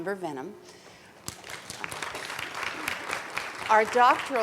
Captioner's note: applauding